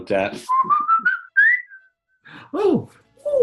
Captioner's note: whistles jaunty melody